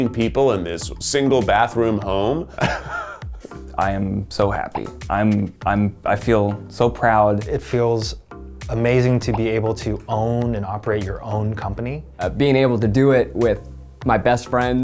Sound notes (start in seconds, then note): 2.6 laughing